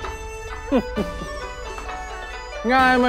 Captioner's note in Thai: เสียงหัวเราะ